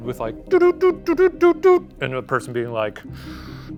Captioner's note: makes alien beeping sound